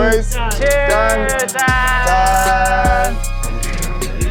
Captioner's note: cheersing in Korean